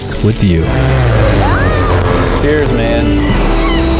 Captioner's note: plane engine roaring; girl screams; bottles clink